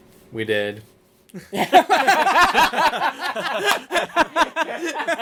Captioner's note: laughter